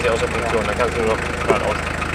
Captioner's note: laughs